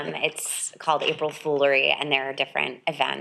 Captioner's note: person laughing